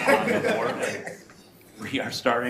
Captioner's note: committee laughter